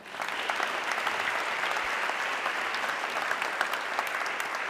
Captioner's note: audience clapping